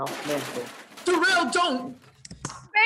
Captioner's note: sign crashing